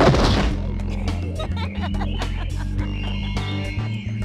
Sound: giggles

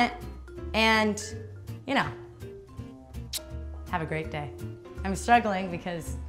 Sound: kissy sound

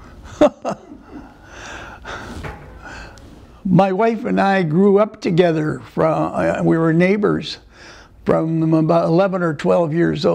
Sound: laughter

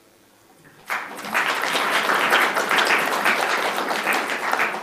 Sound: applauding

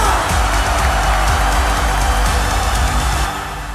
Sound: crowd roars

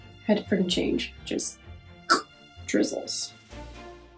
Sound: nasty mouth noise

